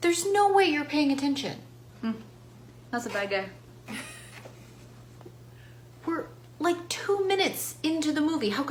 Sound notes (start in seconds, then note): 3.9 laughs